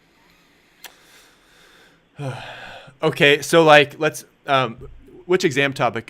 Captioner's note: sighs